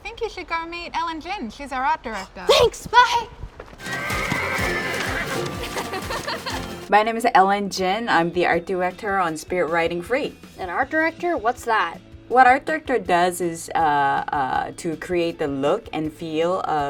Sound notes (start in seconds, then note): 3.8 horse neighs; 5.5 laughing